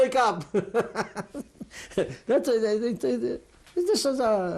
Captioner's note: laughs